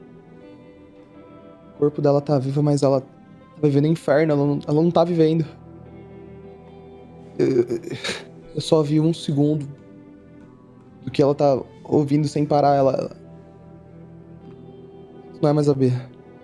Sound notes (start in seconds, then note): 7.4 sigh